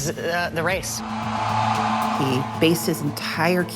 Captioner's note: crowd cheering